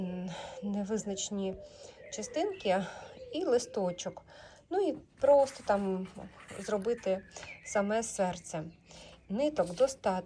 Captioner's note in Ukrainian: сопіння